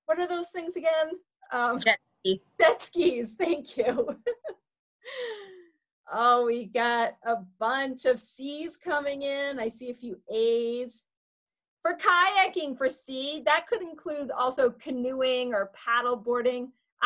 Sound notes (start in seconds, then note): 5.2 laughs